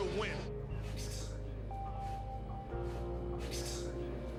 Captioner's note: clicking with his mouth